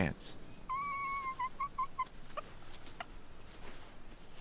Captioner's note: whimpering